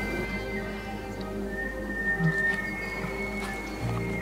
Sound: elk bugling

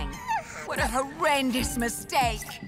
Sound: squeaky yawn

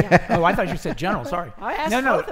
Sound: laughing

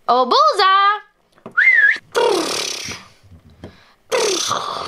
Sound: whistles

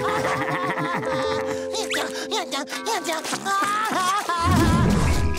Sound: crying; laughing

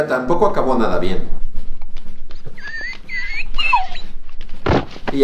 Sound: whine

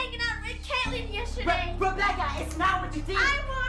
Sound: smacks his hands

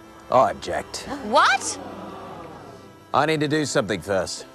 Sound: group gasps

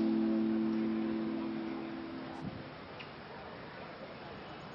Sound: birds chirping

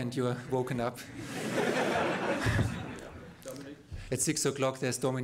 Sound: laughter

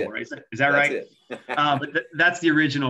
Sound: laughs

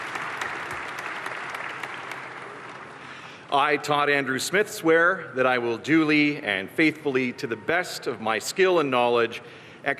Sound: cheers and applause

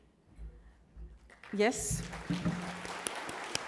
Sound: crowd applauds

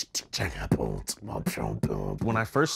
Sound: beatboxing

